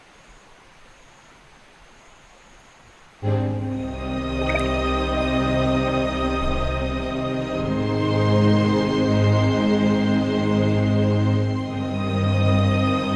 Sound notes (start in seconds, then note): 3.2 mellow music continues; 7.1 ring plops